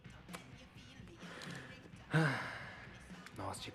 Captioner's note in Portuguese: suspiro